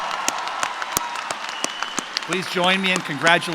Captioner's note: cheering